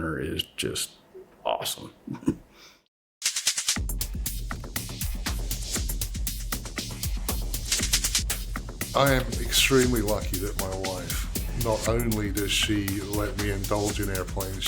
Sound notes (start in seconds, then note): 2.0 chuckles; 3.1 rhythmic clicking; 4.1 energetic music; 7.5 rhythmic clicking